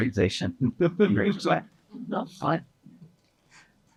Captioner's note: participants laughing